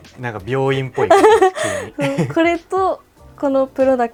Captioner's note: laughter; laughs